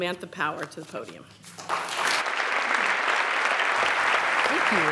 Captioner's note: applause